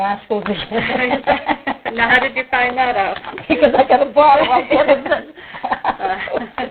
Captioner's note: laughs